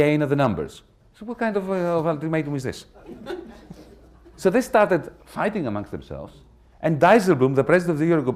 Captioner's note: laughter